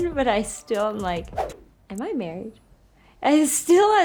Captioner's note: swish